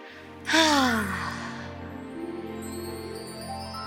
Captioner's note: exhales